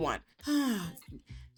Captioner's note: sighs